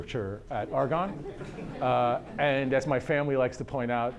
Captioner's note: audience laughter